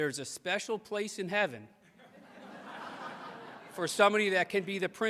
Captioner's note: audience laughs